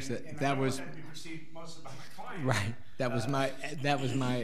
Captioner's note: laughing